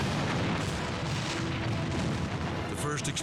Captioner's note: explosion booming